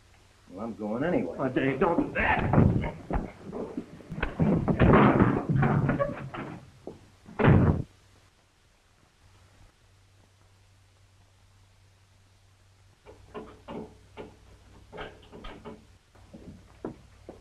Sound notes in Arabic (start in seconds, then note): 7.3 يُغلق الباب بقوة; 13.0 النقر على القفل